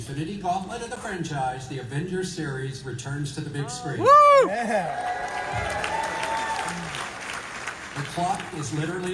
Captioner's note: applause